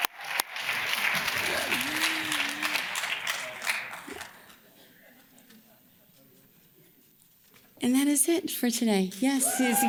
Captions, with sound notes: (audience claps) And that is it for today, yes.